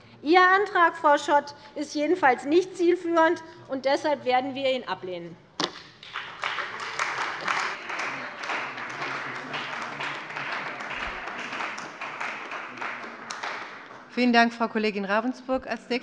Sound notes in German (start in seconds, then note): 5.8 Beifall bei der CDU und dem BÜNDNIS 90/DIE GRÜNEN